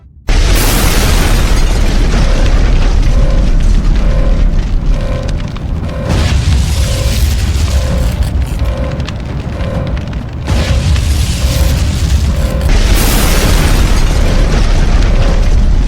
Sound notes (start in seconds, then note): 0.3 explosions booming; 0.9 alarm blaring; 6.1 flames whooshing; 10.5 explosions booming